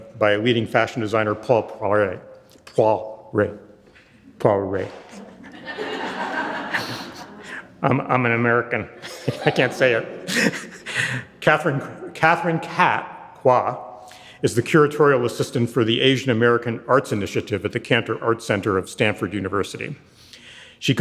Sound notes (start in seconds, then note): 5.2 audience chuckling; 10.8 chuckling